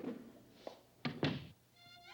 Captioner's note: door shutting